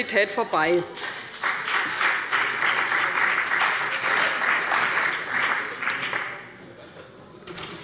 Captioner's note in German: Beifall bei dem BÜNDNIS 90/DIE GRÜNEN und der CDU